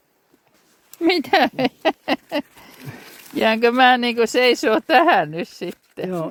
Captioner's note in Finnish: naurua